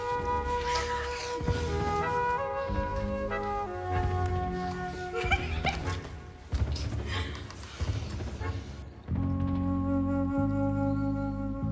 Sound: giggling

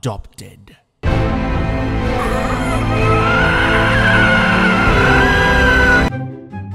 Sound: confused Alligator Noises

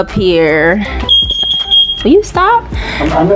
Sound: loud beeping sound

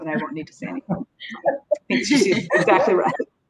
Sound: laughter

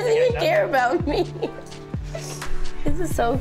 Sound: nervous laugh

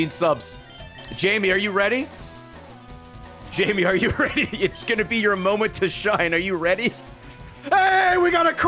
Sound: laughs

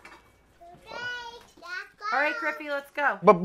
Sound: babbling

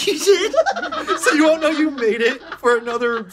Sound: laughs

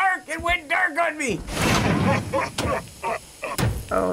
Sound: lights clang on, demonic laughter

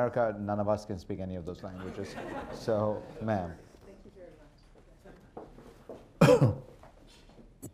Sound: laughter

